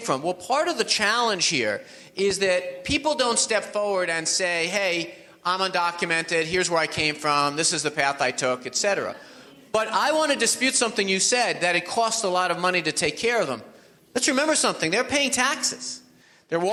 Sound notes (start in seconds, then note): 8.8 audience laughs